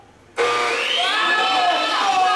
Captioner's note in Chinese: 鋸齒聲